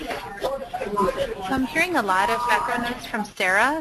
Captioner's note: voiceover